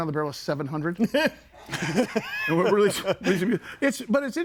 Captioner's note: person laughs